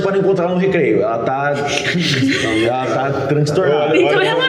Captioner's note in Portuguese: Risadas